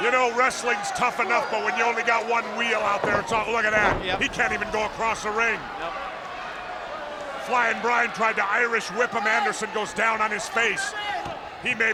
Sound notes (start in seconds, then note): 2.9 body thudding